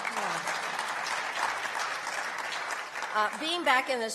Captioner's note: applause